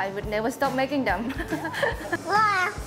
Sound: laughs

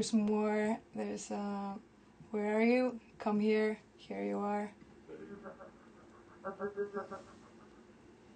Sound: sounds over computer

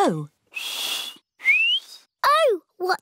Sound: whistles

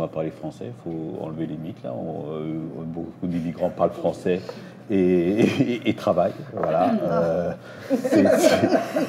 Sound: laughs

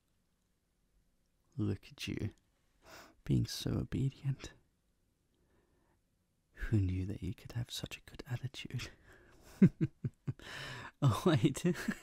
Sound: chuckles

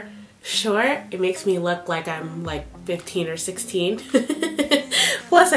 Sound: laughs

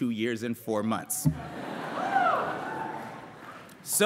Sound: laughter

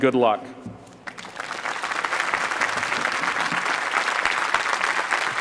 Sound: applause

